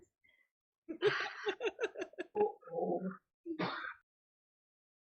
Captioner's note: laughs